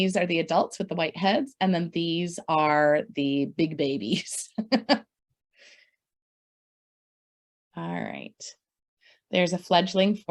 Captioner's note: laughs